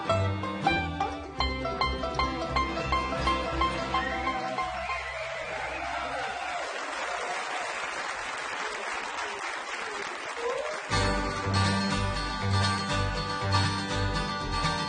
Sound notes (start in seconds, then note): 9.2 cheering